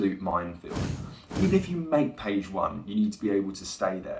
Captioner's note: comic explosions